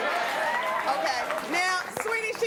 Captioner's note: audience cheering and applauding